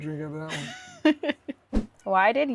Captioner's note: laughs